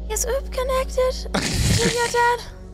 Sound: laughs

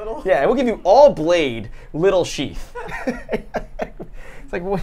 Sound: laughs

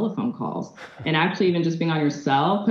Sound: chuckles

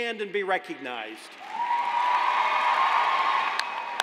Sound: cheers and applause

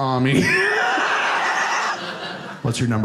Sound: audience laughing

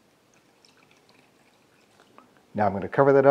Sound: water running

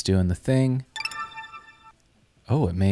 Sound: chiming

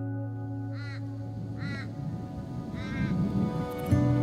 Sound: bird squawking

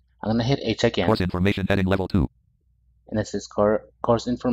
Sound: screen reader voice

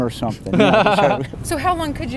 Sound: laugh

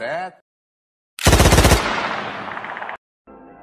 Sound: machine Gun Sound

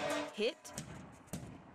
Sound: nats of man hitting food truc

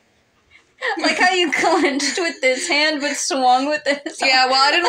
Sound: laugh; chuckling

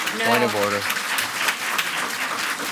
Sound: audience applauds

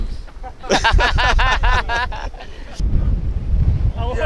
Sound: both laugh

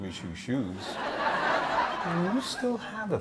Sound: audience laughs

